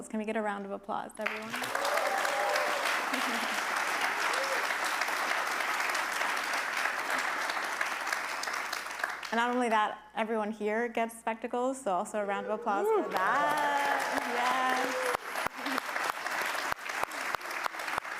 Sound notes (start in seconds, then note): 1.8 attendees clapping and cheering; 3.0 chuckles; 3.9 attendees clapping and cheering; 12.8 attendees clap and cheer